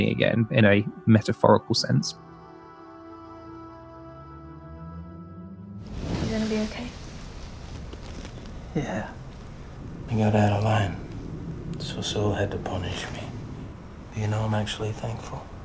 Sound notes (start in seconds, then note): none